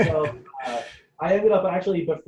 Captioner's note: chuckling